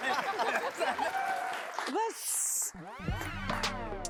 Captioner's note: applause and cheer